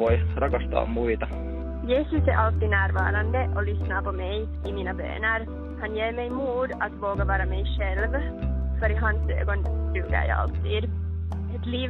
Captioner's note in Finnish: Ruotsiksi